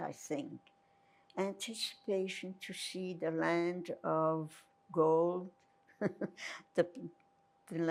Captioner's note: laughing